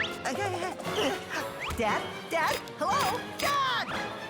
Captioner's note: click, click